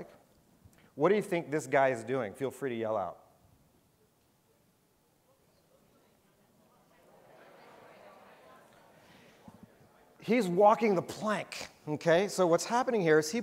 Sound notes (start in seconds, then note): 5.2 audience murmuring